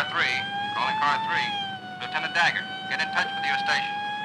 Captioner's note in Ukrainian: Голос за кадром